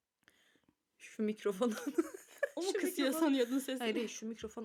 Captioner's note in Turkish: kahkaha